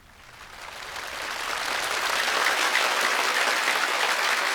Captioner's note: audience applauding